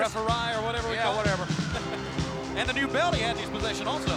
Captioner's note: laughs